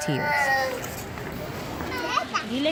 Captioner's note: crying